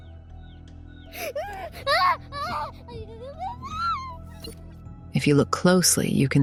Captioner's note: screaming